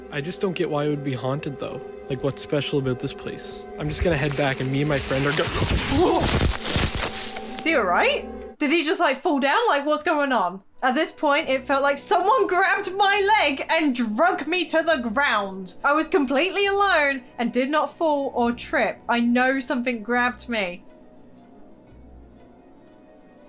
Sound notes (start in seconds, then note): 6.3 crashing into leaves; 20.8 spooky music